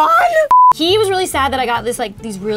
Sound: beep

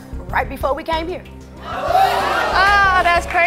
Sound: audience oohing

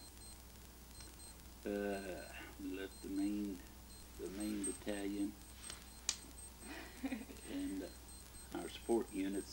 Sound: chuckles

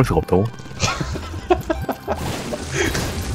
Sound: laughs

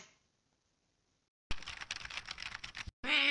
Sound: typing

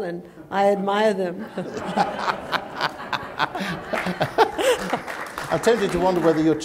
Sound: laughter

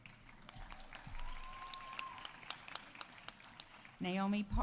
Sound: audience applauding; audience cheering

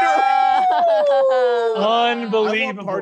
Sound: cheering

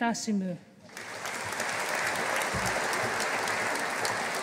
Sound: audience applauding

